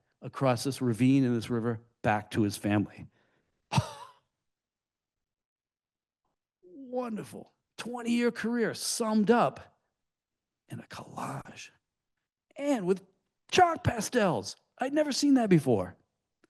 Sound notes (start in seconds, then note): 3.7 chuckles